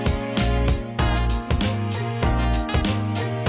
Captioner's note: happy noises